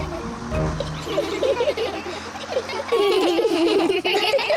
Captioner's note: all giggle